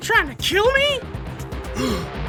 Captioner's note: gasp